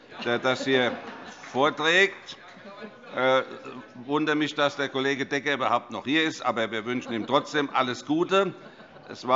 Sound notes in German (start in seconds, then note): 2.4 Heiterkeit